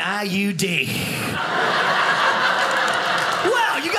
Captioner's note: audience laughing